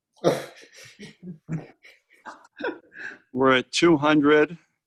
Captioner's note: laughing